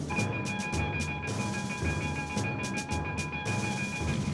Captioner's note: bell ringing